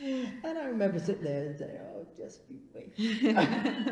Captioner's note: laughs